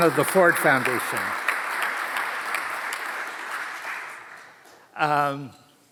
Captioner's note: audience applauds